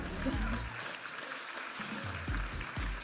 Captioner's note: audience applauding; upbeat music